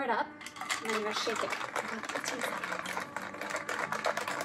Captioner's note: shaking sound; shaking sounds